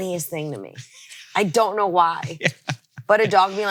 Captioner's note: laughs